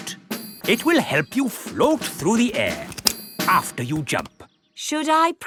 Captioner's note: clicking